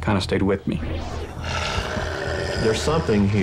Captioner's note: snarling